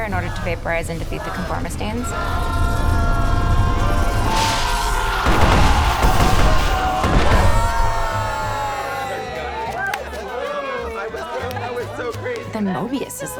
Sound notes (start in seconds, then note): 3.7 conformistines clamor; 3.7 lightning zaps; 6.7 members cheering